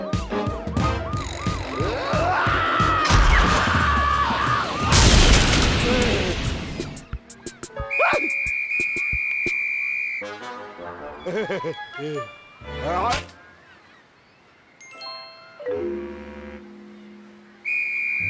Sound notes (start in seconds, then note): 11.2 laughs